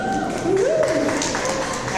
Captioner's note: audience members cheer